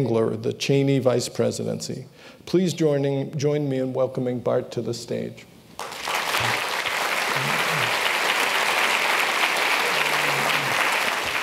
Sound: applause

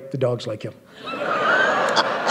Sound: laughter

